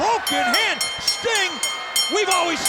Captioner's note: bell rings